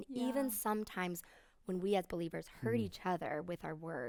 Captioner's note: none